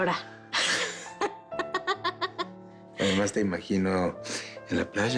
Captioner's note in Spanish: Ríe